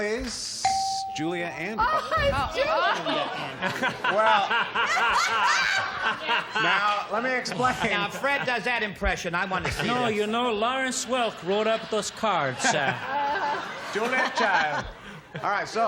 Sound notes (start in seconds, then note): 0.6 ding; 6.6 laughter